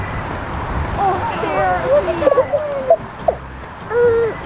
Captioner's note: kids exclaiming